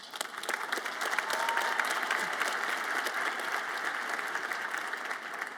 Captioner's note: audience applauds